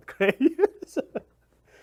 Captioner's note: laughs